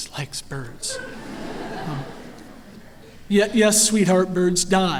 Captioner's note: laughter